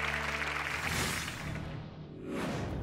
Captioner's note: applause